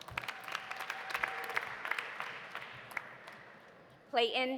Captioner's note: audience cheering; audience applauding